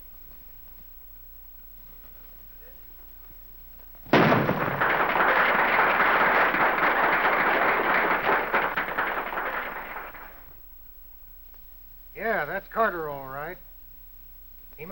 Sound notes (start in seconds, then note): 4.1 gunshot; 4.1 applause